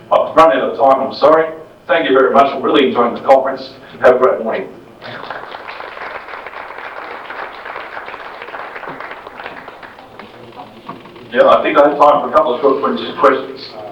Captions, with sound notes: I've run out of time. I'm sorry. Thank you very much for really enjoying the conference. Have a great morning. [applause] Yeah, I think I have time for a couple of short questions.